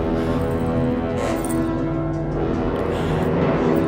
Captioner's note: Fleques panting